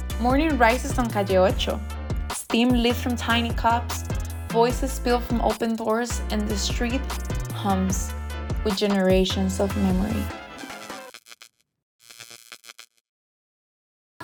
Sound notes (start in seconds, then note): 0.0 upbeat music; 12.0 title buzzing